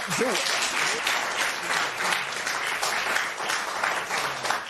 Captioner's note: applause